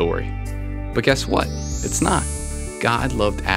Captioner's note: chimes